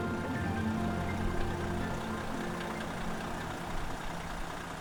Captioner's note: engine rattling